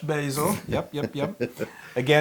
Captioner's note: laugh